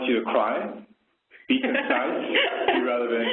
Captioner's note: laughter